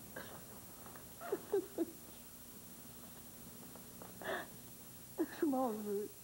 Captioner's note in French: Pleurs